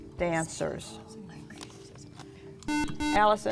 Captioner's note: whispering